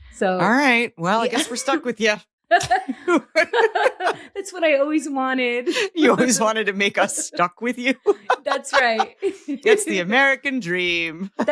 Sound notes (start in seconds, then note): 2.6 both laughing